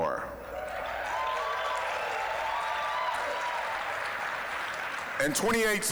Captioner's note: applause, cheering